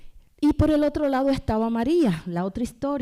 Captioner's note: speaking spanish